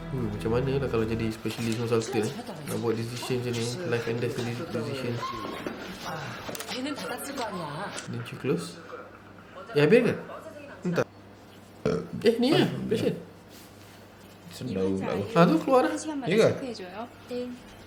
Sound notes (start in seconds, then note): 11.8 burrpp